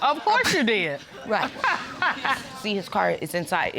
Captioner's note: laughs